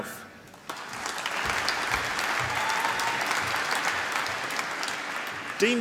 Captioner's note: applause